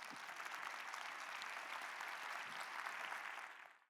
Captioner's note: applause